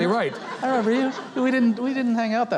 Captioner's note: audience laughing